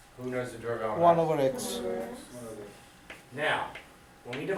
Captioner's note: voiceover; voiceover